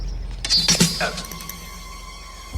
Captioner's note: groans